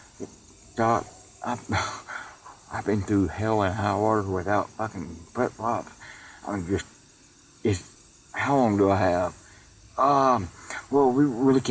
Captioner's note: chuckles